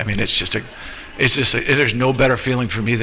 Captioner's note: laughter